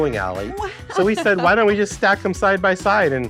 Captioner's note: laughs